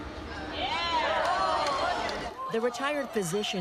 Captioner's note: crowd cheering